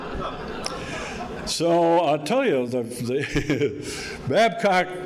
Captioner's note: audience laughing